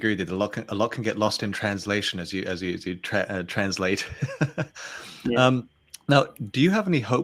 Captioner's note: chuckles